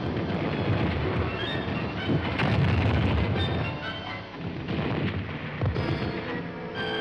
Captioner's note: bombs exploding